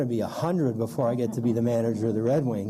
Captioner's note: laughter